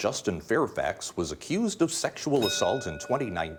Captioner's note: bell dinging